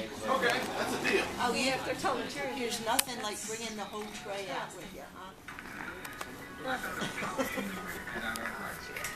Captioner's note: laughs